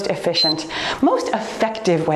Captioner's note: timer beeps